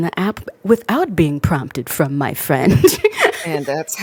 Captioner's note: laughs